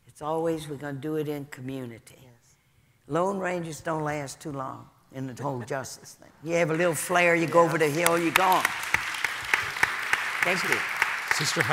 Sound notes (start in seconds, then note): 8.7 audience applauding